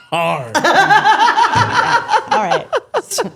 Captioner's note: both laughing